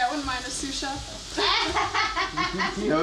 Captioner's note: laughing